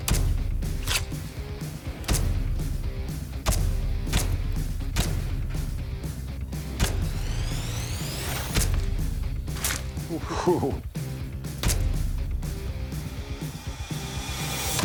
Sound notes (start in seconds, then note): 10.0 soft laughter